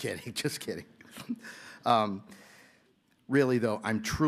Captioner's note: laughter